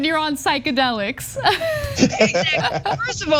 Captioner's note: laugh